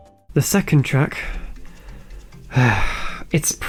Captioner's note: sigh